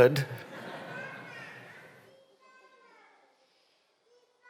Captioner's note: laughter